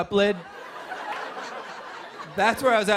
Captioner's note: laughter